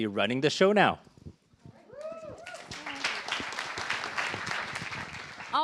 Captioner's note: cheers, applause